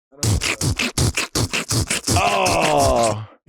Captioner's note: Delta beatboxes